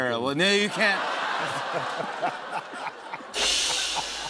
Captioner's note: laughter; cymbal crash